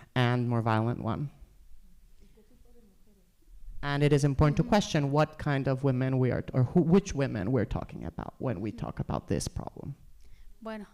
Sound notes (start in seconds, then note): 2.1 speaking spanish; 10.7 speaking spanish